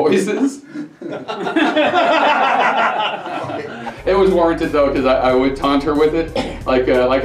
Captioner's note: laughter